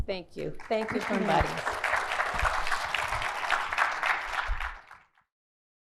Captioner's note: clapping